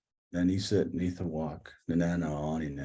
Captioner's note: non-english speech